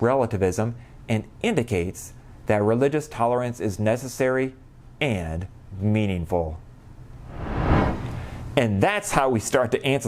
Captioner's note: low woosh